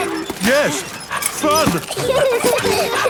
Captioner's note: straining; peppa and george laughing